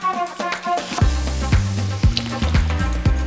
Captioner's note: knife chopping; liquid splashing